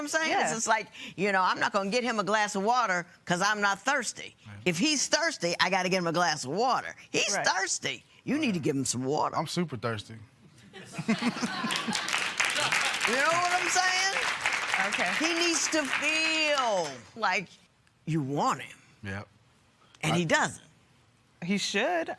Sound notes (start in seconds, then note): 10.8 laughter, applause